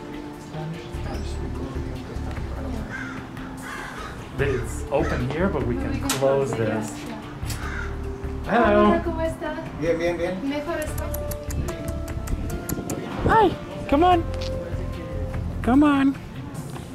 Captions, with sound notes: This is open here, but we can close this. No we can close it, yeah, yeah. Hello. [Foreign] [Tongue clicks] Hi come on, come on.